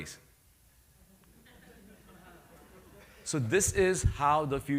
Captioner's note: laughter